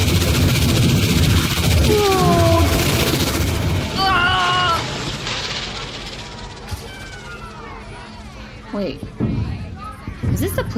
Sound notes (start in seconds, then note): 8.7 screaming as they fall through a rippling portal